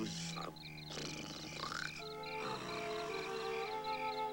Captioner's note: snoring